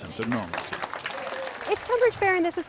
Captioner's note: crowd applauding